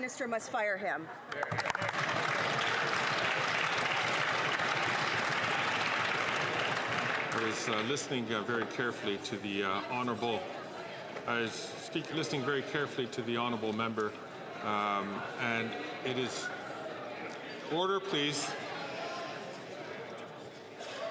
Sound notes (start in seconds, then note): 8.2 some Applause